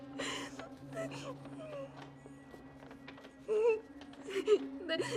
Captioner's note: Aleks sobbing